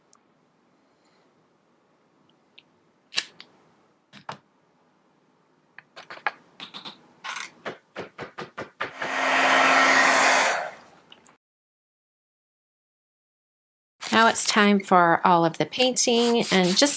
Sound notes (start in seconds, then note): 9.0 whirring